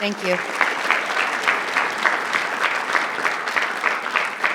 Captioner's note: audience clapping